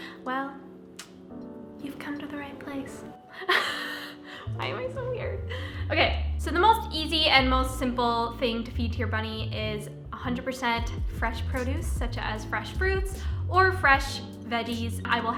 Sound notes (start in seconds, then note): 3.4 chuckles